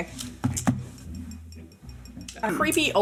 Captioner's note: tapping glass